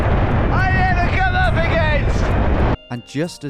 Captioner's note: wind blowing loudly